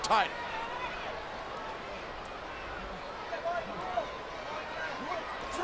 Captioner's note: audience chattering